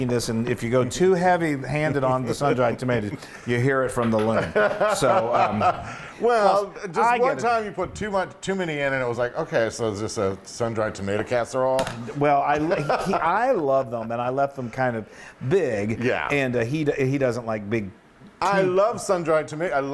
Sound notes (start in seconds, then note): 4.2 laugh